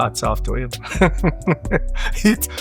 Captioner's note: laughs